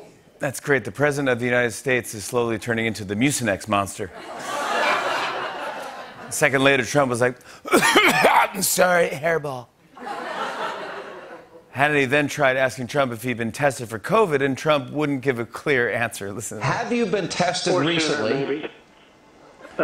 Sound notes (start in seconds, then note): 4.2 laughter; 7.4 As Trump; 7.6 coughing; 9.9 laughter